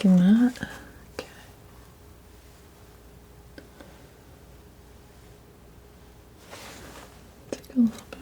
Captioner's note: scratching